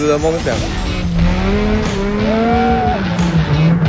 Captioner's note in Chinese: 漂移聲